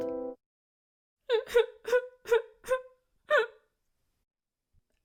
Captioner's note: sad music plays; crying